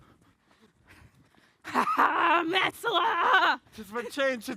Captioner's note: laughs